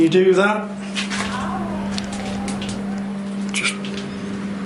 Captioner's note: strange voice